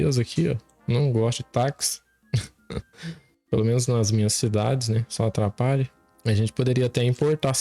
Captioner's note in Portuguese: risadas